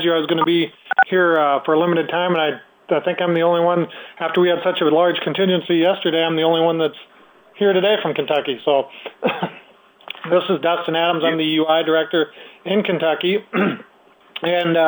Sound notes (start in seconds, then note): 9.1 chuckles